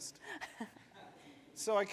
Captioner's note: attendees laugh